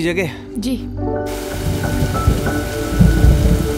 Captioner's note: Rain pattering